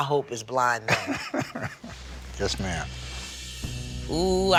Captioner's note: laughs